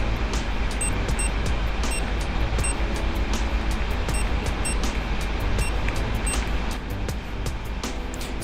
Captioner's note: beeping noises